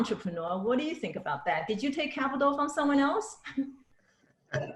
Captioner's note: laughs